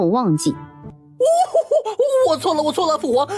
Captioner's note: sobbing